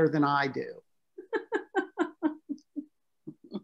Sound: laughter

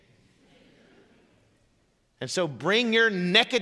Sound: congregation laughing

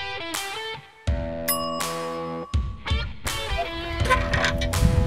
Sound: bell ringing

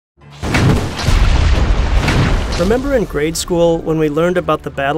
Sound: cannon blasts

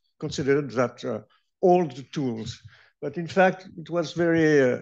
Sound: french

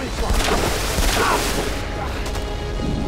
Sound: guns firing

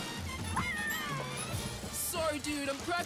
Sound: rhythmic music; screaming

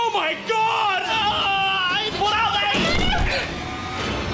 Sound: screaming

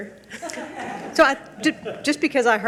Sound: audience laugh

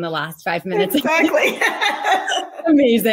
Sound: both laughs

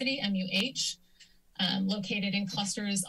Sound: click

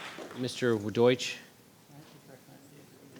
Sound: whispering

